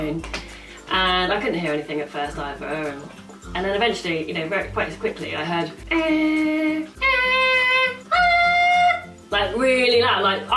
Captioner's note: makes weird beeping noises